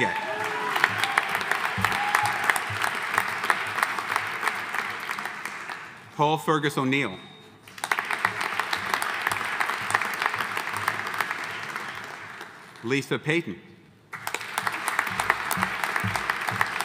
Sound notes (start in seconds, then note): 0.0 audience cheering; 0.0 audience applauding; 7.6 audience applauding; 14.1 audience applauding